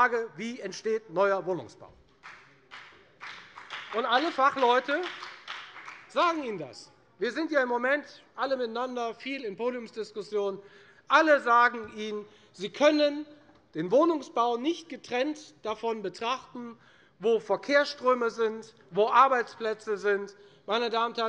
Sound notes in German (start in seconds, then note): 4.4 Beifall bei der FDP